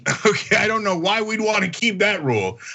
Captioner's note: laugh